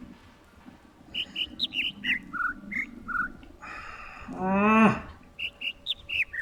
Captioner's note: overlapping birds chirping, ˥ ˥ ˩ ˧ ˩; sighs and whimpers; overlapping birds chirping, ˥ ˥ ˩ ˧ ˩